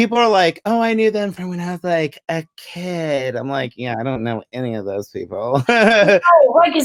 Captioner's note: laughs